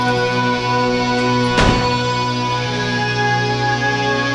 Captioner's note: truck door slam